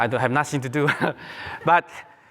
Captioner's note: laughter